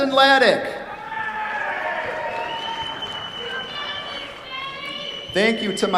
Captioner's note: cheers, applause